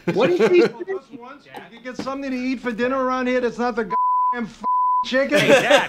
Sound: beeping

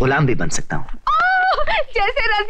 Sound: yell

